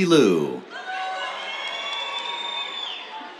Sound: cheers

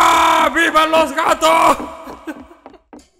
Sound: laughts

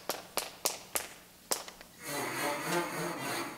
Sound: clapping; low squeaking

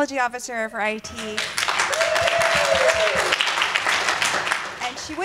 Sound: applause

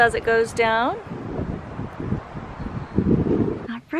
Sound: wind

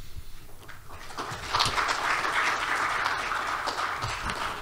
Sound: applause

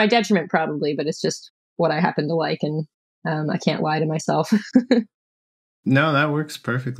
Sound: laughter

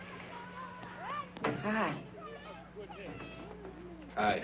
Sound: door banging

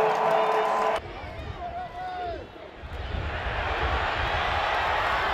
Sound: cheering; crowd noise; cheering

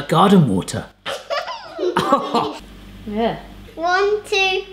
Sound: laughter

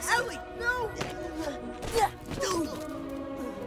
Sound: both Grunting

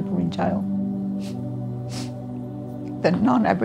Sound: sniffing

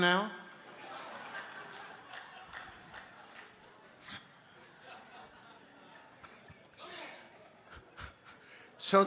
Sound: congregation laughing

